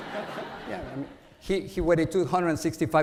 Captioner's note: audience laughs